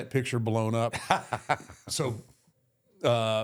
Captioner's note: Michael laughs